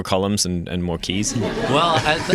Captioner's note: laughter